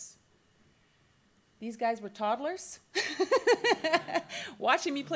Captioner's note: laughs